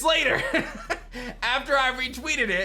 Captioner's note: chuckles